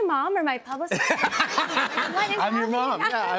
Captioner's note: laughter